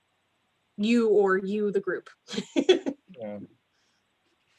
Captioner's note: laughs